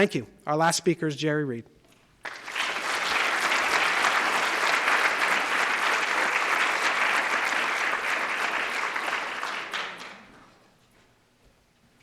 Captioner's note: applause